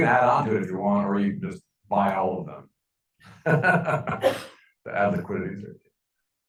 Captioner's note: laughing